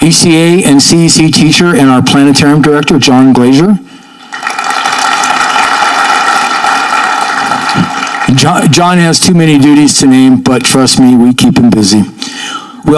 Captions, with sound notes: ECA and CEC teacher and our planetarium director John Glaser. (audience clapping) John has too many duties to name, but trust me, we keep him busy.